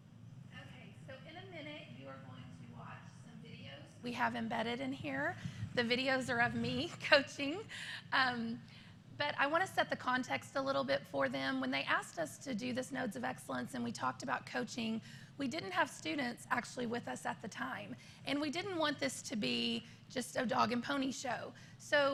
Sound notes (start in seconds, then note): 7.0 laughter